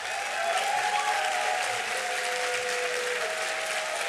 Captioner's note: applause